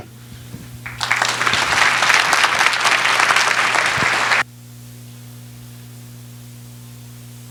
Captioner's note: applause